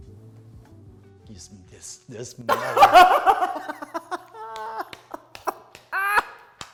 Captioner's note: laughs